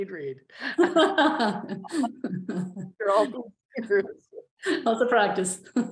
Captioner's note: laughter